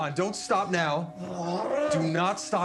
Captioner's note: Clive grunting